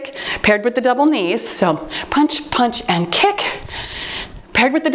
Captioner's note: timer beeps